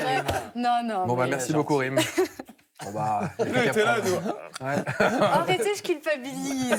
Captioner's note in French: rires